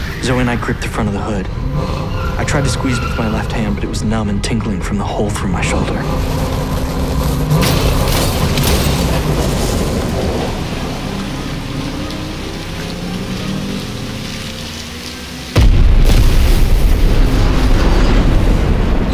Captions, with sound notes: Zoe and I gripped the front of the hood. I tried to squeeze with my left hand but it was numb and tingling from the hole through my shoulder. [blasts]